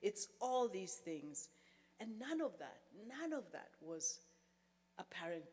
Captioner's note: none